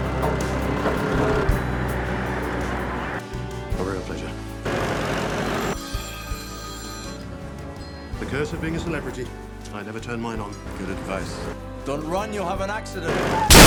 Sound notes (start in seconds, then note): 4.6 tractor engine rumbling; 6.3 phone ringing